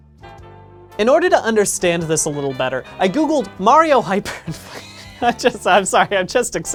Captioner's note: laughing